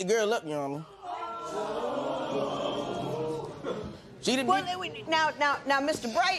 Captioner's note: spectators murmur